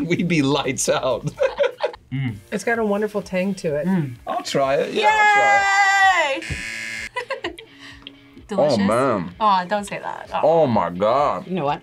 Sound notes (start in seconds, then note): 1.2 both laugh; 6.3 buzzer rings; 7.1 laughs